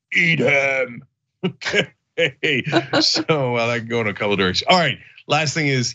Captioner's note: laugh